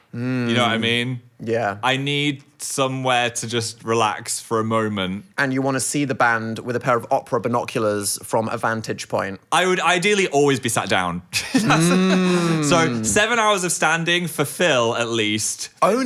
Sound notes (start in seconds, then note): 11.3 laughs